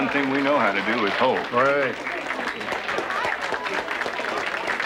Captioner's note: applauding